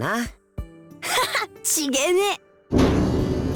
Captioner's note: chuckle